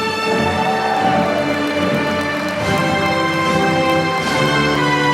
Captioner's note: applause